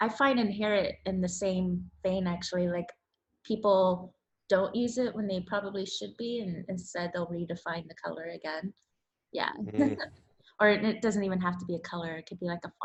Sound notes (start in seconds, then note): 9.6 laughs